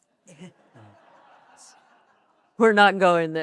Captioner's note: audience laughing